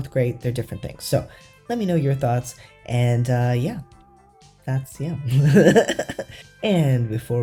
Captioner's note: laugh